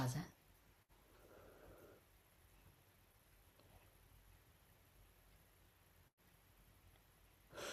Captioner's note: pause